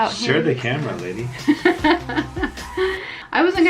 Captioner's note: laughs